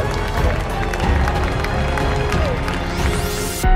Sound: clapping sounds

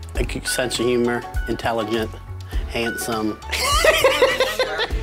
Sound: laughs

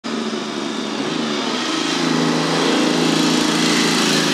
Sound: bike engine roaring

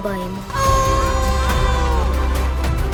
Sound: both howling

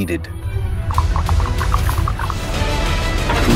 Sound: knuckle noises

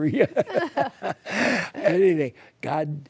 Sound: laughter

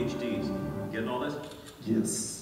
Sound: camera sound

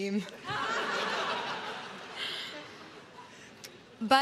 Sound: crowd laughs

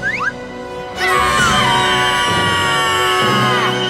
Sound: screaming

